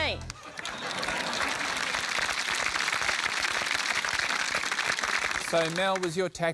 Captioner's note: applause